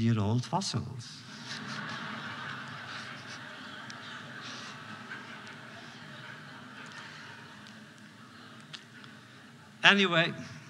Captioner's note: laughter